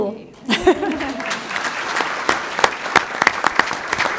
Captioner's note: applause